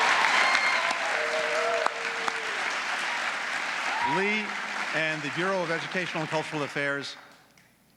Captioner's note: applause